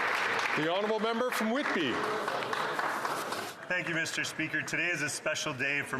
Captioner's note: applause